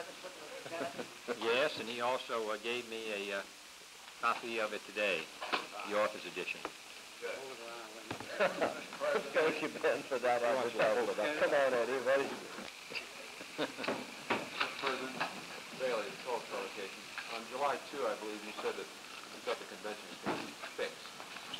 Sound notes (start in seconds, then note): 1.3 JFK, chuckling; 8.2 HST, laughing